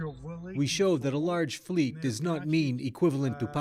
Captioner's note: speaking alternate language